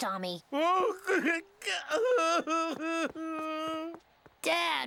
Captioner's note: sobbing